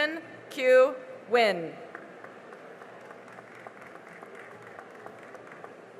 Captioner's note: cheering and applause